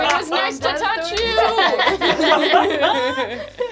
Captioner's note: laughing